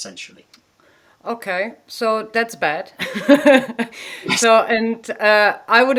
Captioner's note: laughing